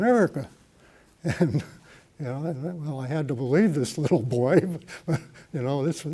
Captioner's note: chuckle